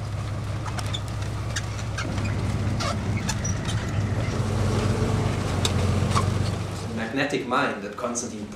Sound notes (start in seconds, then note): 0.0 engine noise